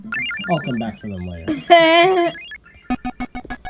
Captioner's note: laughs